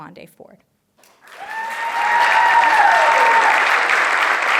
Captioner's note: cheers, applause